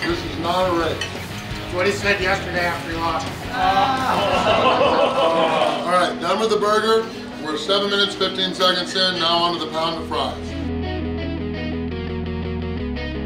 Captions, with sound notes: This is not a race. - What he said yesterday after he lost. (laughing) - All right, done with the burger. We're seven minutes 15 seconds in. Now on to the pound of fries. (rock music)